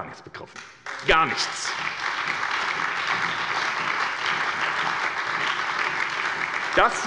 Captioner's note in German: Lebhafter Beifall bei der SPD